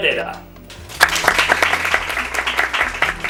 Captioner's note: applause